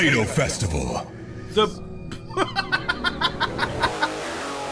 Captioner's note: bursts out laughing; metal music